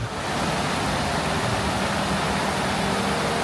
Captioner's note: water rushes